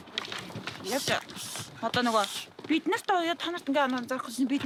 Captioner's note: foreign spoken audio